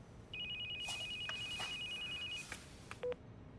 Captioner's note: phone ringing